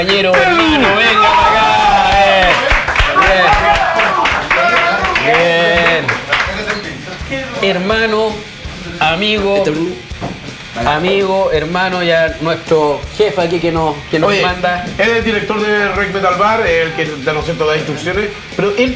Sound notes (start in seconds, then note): 2.7 applauses